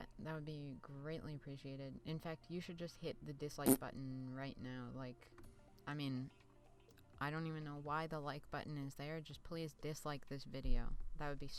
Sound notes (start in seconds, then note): 10.4 fart sound